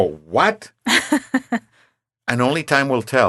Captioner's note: laughing